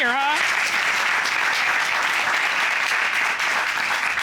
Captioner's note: applause